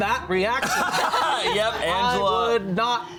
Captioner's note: all laughing